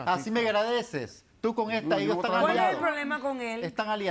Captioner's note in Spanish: Hablan al unísono